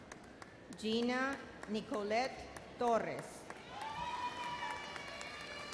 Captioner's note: audience cheers